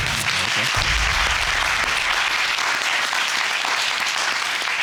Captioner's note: audience applauding